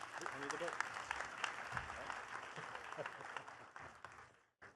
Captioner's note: attendees clapping